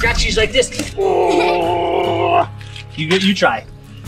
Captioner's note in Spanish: gimiendo